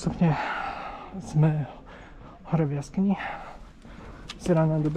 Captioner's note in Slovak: vzdychanie